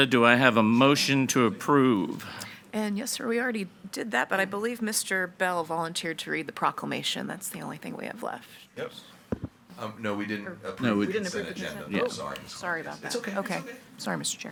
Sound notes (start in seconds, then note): 11.0 group chattering